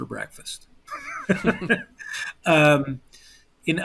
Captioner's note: laughter